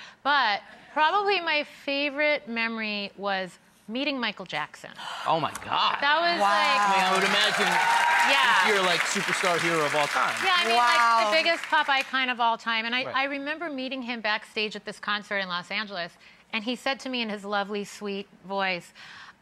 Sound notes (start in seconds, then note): 4.9 gasps; 6.4 audience applauding